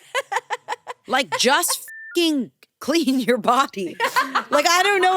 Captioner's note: laughs; beep